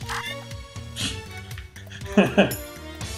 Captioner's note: laughs